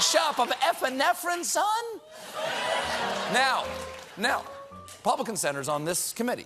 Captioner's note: laughter